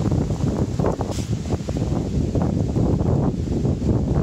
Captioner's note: wind blowing